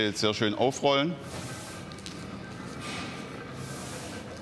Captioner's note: quiet rattling in the background